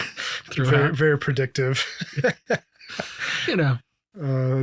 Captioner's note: both laughing